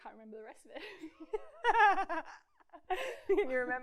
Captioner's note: everyone laughs